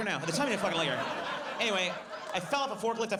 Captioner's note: audience laughs